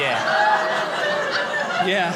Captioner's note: audience laughing